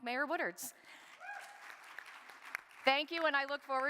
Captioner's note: audience applauding